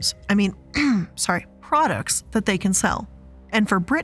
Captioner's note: clears throat